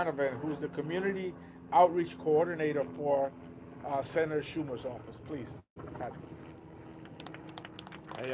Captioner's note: applause